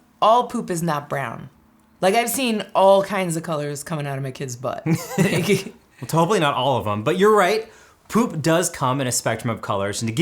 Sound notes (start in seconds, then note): 4.9 laughing